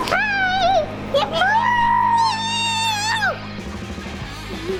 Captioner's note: shrieks excitedly